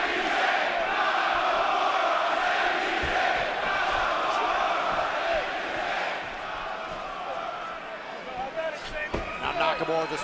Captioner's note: fans chanting